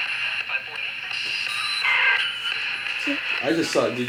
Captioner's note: static and sounds